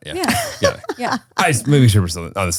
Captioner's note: laughs